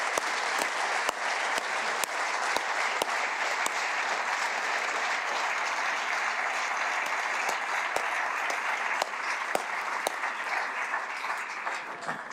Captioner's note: applause